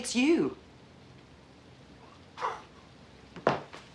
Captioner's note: chuckling